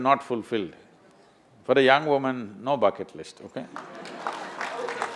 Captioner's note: applause